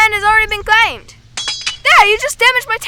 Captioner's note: building damage sound